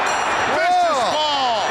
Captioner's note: bell ringing